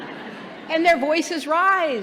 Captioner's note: laughter